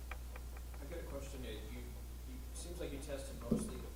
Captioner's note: voiceover